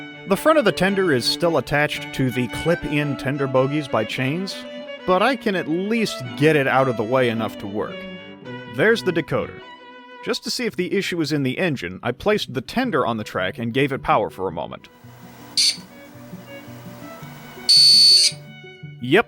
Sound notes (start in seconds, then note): 14.9 quick electric buzz; 17.7 electronic buzzing